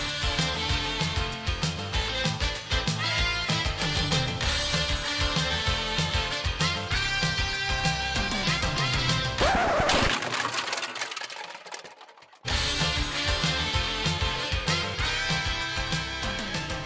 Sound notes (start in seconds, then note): 9.4 crashing; 9.8 tape screeching; 12.4 lively instrumental music